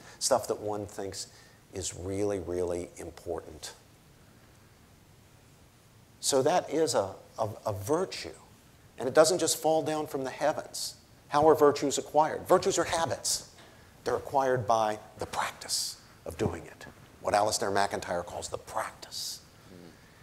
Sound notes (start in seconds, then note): none